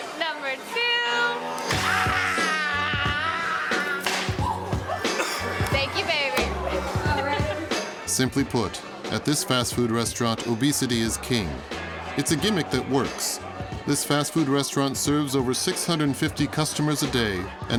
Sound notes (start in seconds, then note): 1.0 upbeat music; 1.1 customer screaming